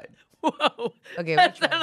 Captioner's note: laughs